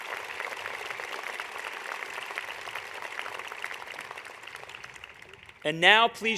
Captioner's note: applause